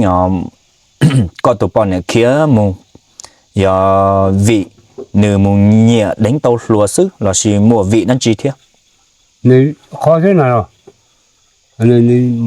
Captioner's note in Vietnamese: hắng giọng